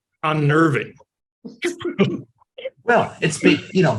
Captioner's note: chuckles